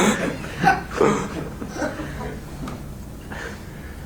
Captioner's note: laughter